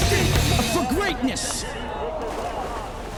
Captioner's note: onlookers gaping, cheering